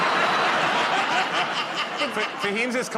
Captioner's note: laughter